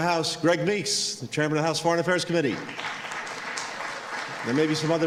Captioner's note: applause